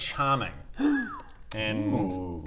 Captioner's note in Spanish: jadeo de asombro